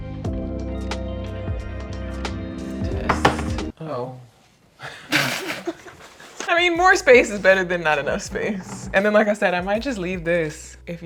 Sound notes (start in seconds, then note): 4.8 chuckle